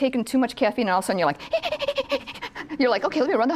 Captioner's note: rapid breathing